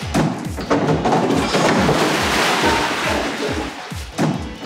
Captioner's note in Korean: 우당탕탕